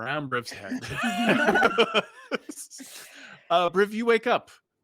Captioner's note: group laughs